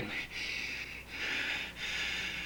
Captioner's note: panting